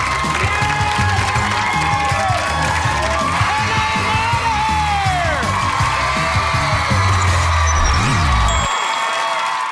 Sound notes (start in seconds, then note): 5.8 audience cheering